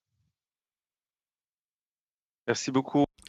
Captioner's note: speaking French